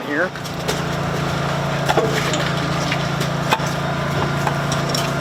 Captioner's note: whir of generator